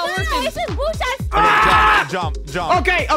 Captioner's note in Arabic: صراخ; يصرخ شريحة لحم